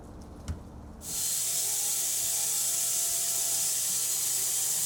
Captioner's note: saw whizzing